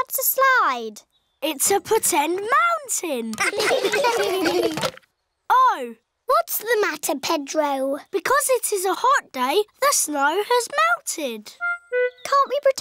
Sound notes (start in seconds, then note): 3.4 laughter